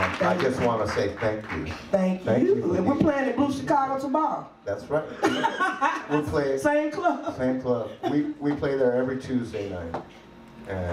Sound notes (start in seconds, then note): 5.2 laughs